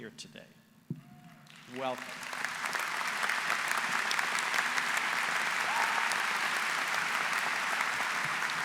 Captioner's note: applause